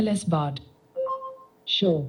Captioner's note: beeping